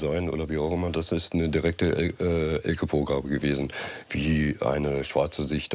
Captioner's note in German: none